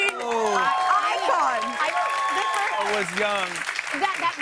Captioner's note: cheers and applause